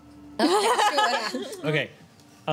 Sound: laughs

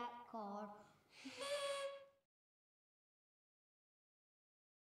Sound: party hooter hoots

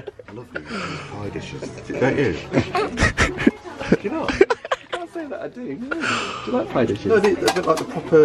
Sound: laughing

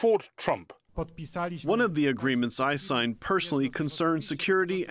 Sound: through translator

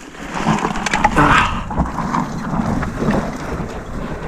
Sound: equipment rustling

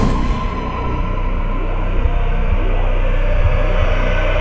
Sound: increasing heartbeat

